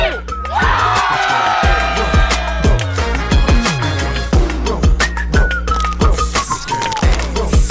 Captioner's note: loud chattering